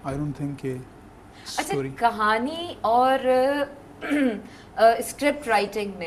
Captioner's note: clears throat